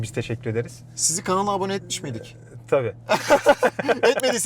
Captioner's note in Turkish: kahkaha